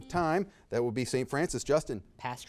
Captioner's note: buzzer beeping